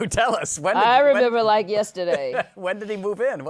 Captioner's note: chuckles